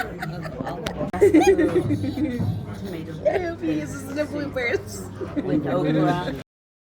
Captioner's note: laughs; laughing